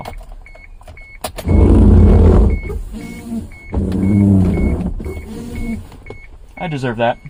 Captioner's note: really loud and angry dry wiper noises